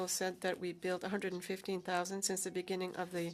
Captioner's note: speaking French